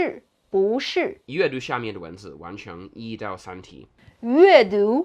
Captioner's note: speaking in Mandarin